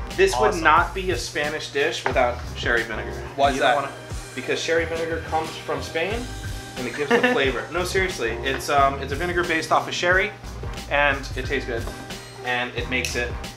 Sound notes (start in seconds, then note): 6.9 laughs